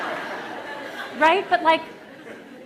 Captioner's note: laughter